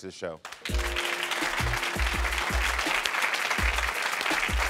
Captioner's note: crowd clapping